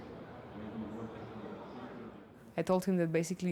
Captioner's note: people chattering